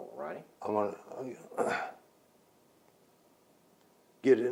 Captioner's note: clears throat